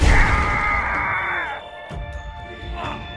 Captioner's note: screams